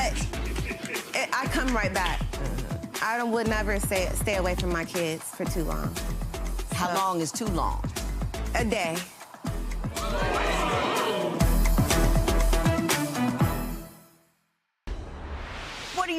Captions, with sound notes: - But I come right back. I would never stay away from my kids for too long. - How long is too long? - A day. (audience oohing) (dramatic music)